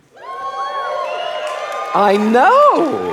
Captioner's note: audience cheering